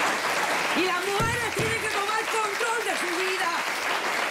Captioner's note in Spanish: Aplausos